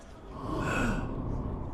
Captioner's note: sighs